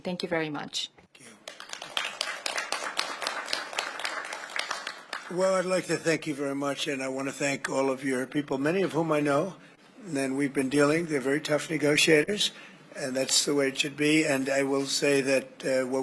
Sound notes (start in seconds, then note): 1.2 applause